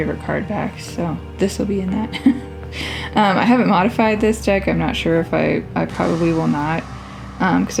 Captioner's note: laugh